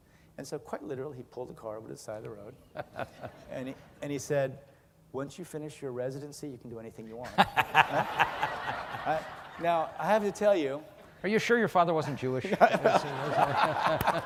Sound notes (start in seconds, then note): 9.2 laughing; 12.4 laughing